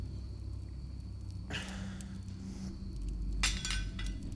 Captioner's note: Alan groans; knife clanks